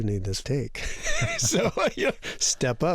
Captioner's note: laughter